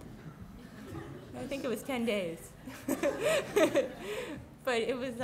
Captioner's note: laughs